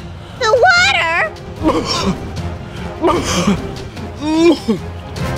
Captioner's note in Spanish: tosiendo